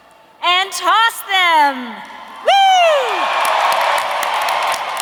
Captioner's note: cheering; audience applauding; audience cheering